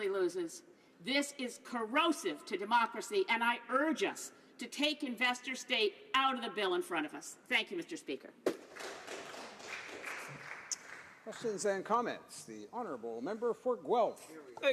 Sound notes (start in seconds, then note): 12.0 some applause